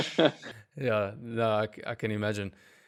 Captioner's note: laugh